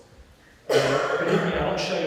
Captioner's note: audience member coughing